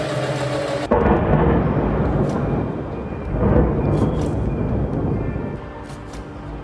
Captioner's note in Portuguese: Barulho de trovão